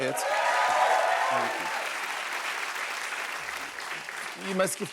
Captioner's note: cheers and applause